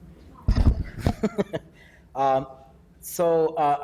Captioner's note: laughing